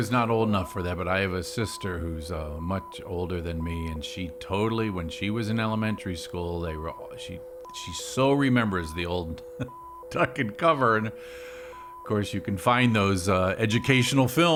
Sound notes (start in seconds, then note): 9.4 laughs